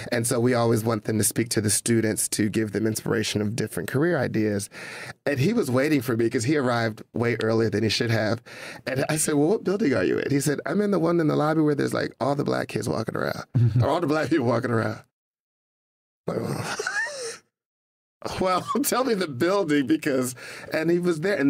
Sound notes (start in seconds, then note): 16.7 laughter